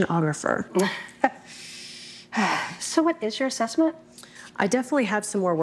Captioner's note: chuckles and sighs